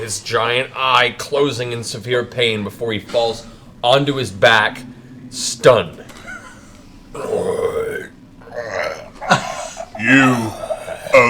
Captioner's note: groans